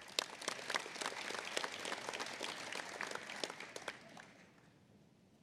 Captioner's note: applause